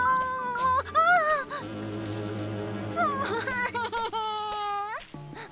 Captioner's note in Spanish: Pearl exhala con temor; música de suspenso; Pearl llora